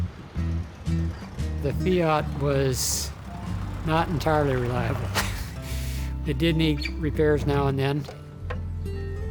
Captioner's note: laughs